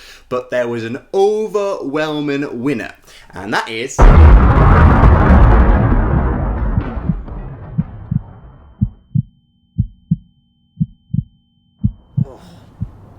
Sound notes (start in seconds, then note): 4.0 explosion; 6.5 slow Heartbeat